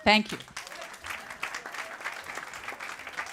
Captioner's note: applause